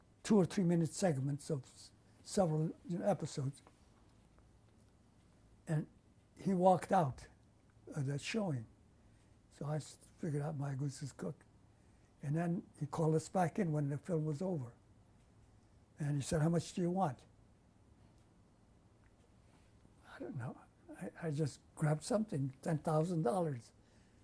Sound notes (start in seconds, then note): 0.0 pauses for 3 seconds; 17.2 pauses for 3 seconds